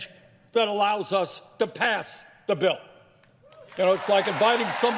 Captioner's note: cheers and applause